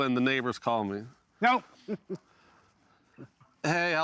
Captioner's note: chuckles